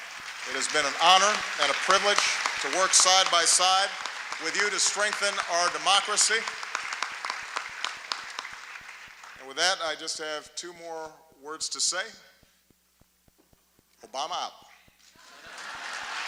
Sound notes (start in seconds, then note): 6.6 applause; 15.1 laughter, applause